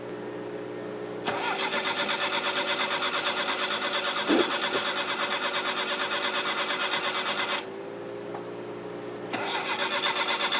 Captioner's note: laughter